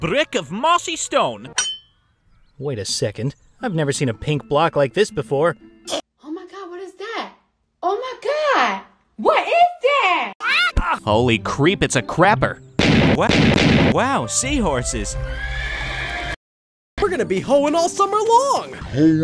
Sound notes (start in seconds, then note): 1.6 metal clinks; 15.2 horses neigh